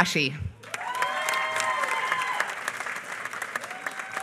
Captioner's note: applause